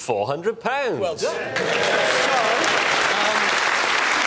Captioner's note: clapping